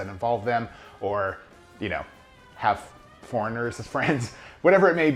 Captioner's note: chuckles